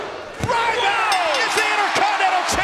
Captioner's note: bell dinging